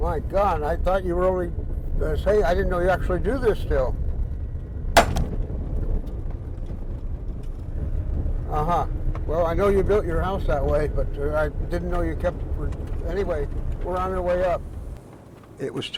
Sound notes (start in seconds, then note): 5.0 sledge hammer crashing